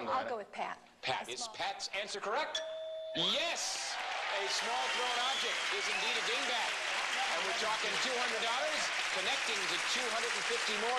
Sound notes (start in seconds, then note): 2.5 ding